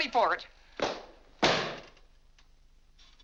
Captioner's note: book slams on desk